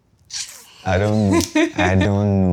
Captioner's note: laughs